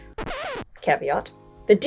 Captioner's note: audio squeaks